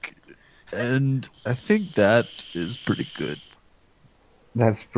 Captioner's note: vaping